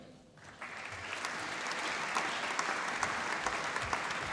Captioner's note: applause